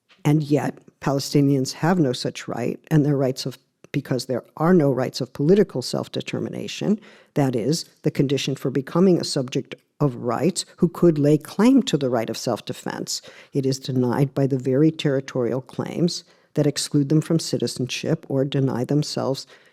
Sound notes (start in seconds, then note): none